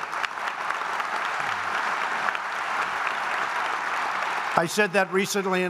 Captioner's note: applause